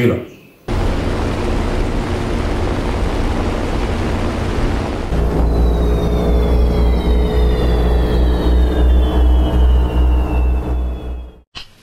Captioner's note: sound of airplanes